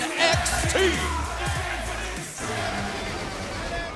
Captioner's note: crowd cheering